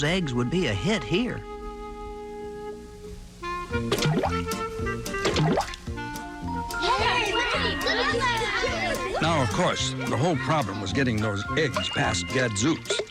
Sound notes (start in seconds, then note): 5.2 splash